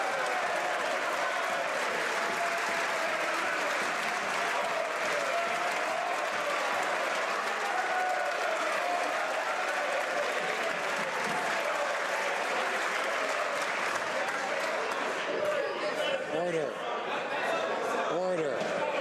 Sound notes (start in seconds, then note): 1.3 some Applause